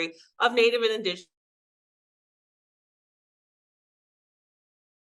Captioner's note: sound cuts out